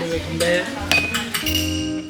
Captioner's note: cling